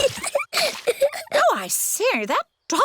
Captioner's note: giggles